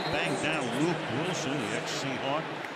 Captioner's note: whistle